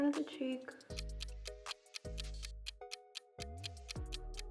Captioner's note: clock ticks